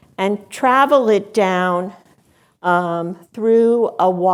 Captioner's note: none